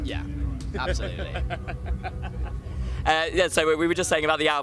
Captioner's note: laughs